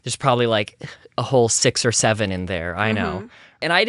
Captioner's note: another mmhm